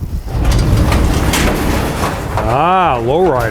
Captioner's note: gate rattling